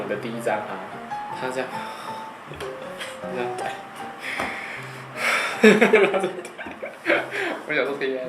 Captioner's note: <i>sighes</i>